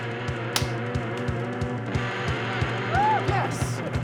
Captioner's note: energetic music; hands slapping; hands slap